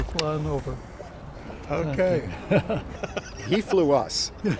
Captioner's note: laughs